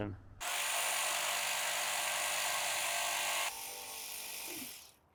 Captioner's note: machine drilling